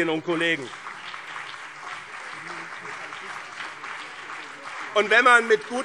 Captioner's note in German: Beifall BÜNDNIS 90/DIE GRÜNEN